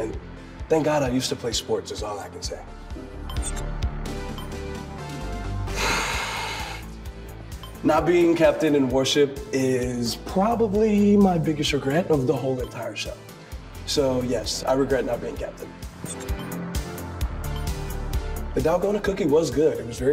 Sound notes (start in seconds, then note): 5.7 huffs